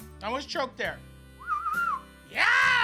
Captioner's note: whistles